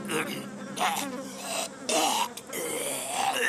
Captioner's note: snorting